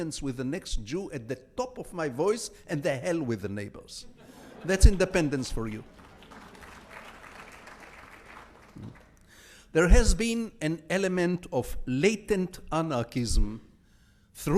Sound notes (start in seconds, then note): 6.2 audience applauds